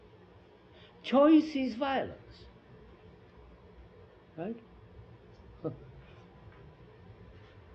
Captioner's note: laughs